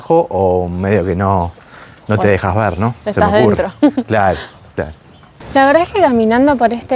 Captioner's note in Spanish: risas